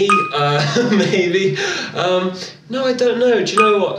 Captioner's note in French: rire